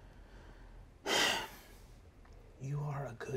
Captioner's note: sighs